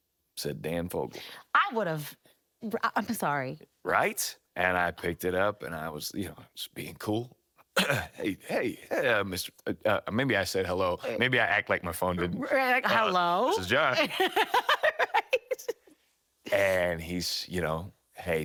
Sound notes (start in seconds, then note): 7.8 clearing throat; 12.2 laughing